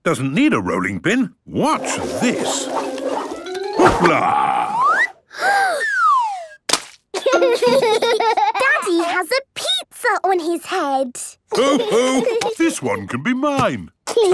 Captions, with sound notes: doesn't need a rolling pin! Watch this! Hoopla!!! - (Peppa gasps) - (splat) - Daddy has a pizza on his head. - Ho, ho! This one can be mine.